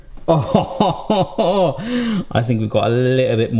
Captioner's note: laughs